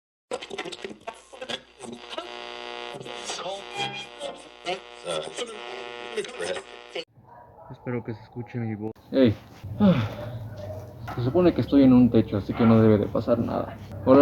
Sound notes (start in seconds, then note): 9.7 dramatic sigh